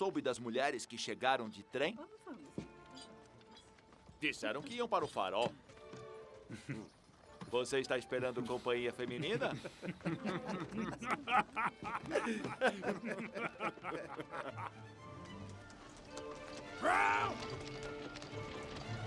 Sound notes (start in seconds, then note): 9.1 men laugh